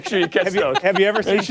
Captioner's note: laughter